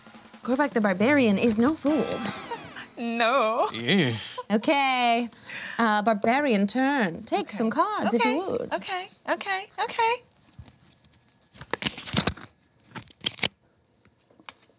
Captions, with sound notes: Gorbah'k the barbarian is no fool. No. (laughs) Barbarian turn, take some cards if you would. Okay, okay, okay.